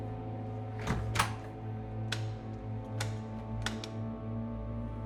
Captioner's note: light switch clicking